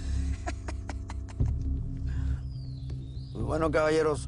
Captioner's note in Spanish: Risas